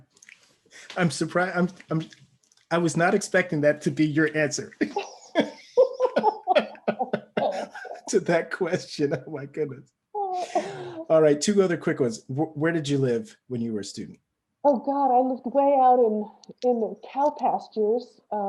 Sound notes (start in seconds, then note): 4.8 laughs loudly